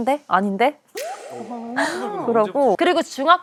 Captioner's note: laughs at her own impression